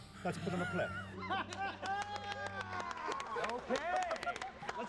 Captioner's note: clapping, laughter